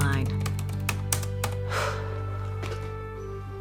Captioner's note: exhales